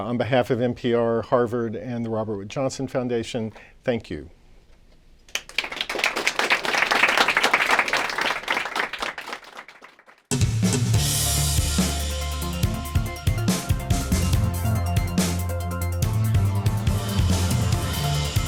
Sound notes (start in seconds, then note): 5.3 applause